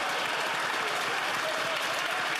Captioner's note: some Applause